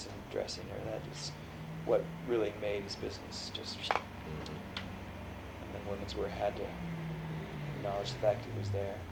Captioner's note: makes whooshing sound